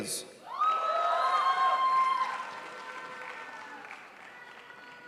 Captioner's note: crowd applauds